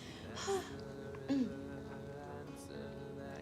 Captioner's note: laughs; Betsy sighs; Betsy clears throat